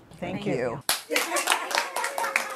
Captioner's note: applause